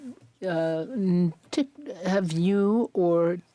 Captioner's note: speaking French